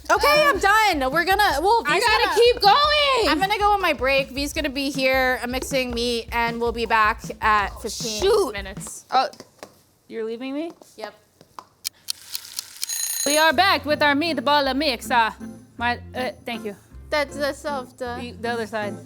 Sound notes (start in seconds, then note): 11.9 timer Ticking; 12.8 timer Ringing